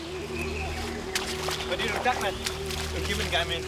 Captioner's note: speaking laotian